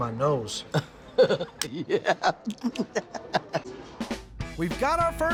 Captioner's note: chef laughs